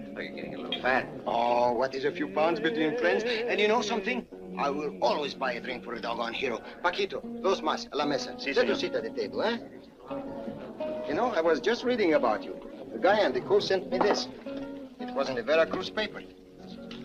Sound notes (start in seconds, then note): 6.6 speaks Spanish